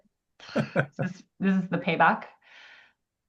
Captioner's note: laughs